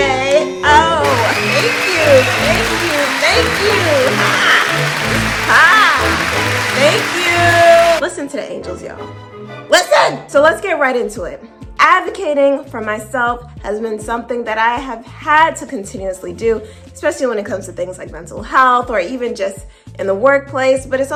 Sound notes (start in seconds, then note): 4.3 applause and music in background